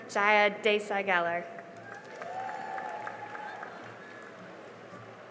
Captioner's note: cheering and applause